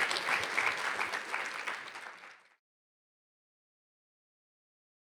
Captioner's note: audience claps